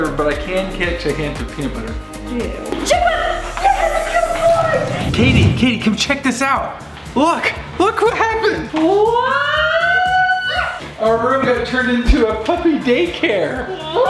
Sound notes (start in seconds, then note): 9.2 children squeal; 13.7 children squeal